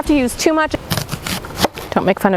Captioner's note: onion crunching